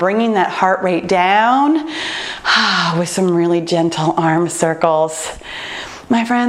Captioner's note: exhales